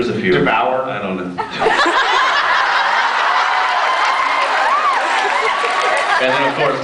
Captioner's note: laughs, cheers